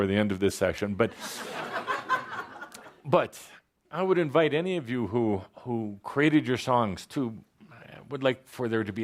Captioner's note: laughter